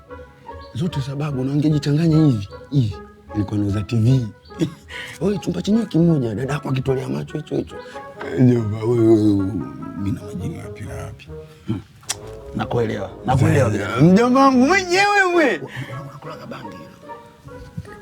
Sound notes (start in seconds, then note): 11.6 groans